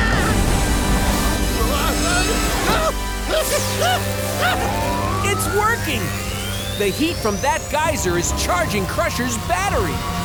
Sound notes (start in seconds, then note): 3.2 laughing